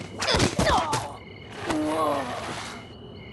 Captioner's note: groan